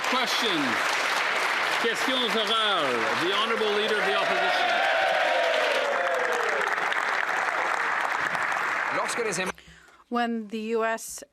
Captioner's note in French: applaudissements